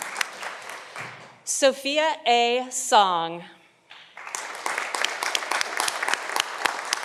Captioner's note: audience applauding